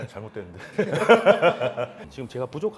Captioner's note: laughs